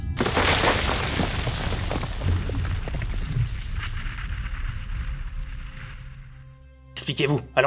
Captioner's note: crackling and explosion in the distance